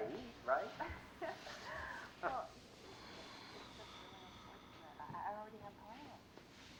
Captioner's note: laughs